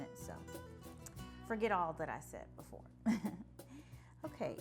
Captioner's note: laughing